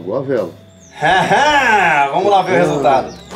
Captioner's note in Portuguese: barulho de afirmação e alegria